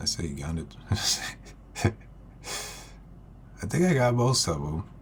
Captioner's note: laugh